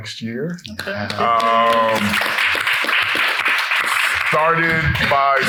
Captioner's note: people clapping